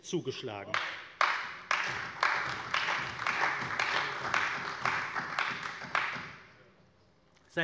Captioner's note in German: Beifall bei der CDU